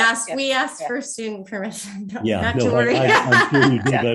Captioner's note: laughing